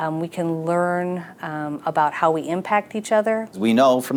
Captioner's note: none